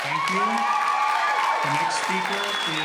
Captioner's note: cheering and applauding